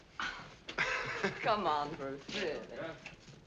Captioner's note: Bruce laughs